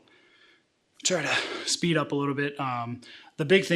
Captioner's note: sighs